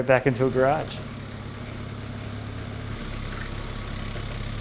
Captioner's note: engine humming